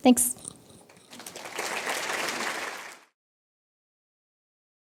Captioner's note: applause